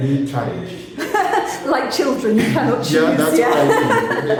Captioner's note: laughing